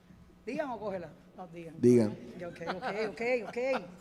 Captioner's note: group speaking in Spanish